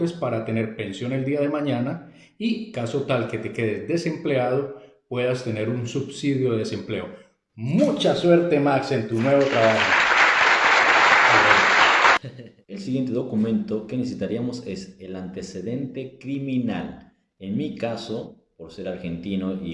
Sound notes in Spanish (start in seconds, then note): 11.7 Aplausos